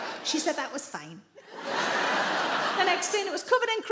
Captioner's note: audience laughing